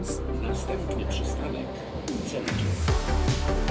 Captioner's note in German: Bordlautsprecher